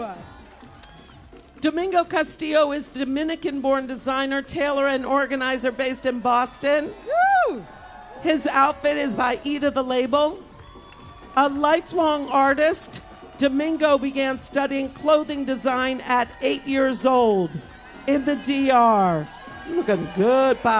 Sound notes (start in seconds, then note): 0.1 applause; 4.0 cheers and applause